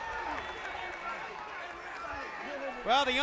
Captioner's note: crowd cheering